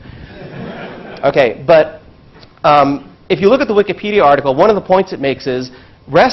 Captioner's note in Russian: Смеется